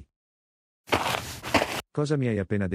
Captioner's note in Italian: FX - Footsteps - On Multiple Dirt - Walk